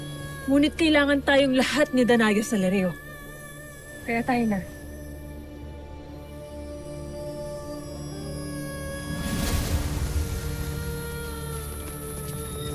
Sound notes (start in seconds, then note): 6.3 sparkling whoosh